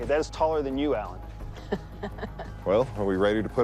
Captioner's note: laughing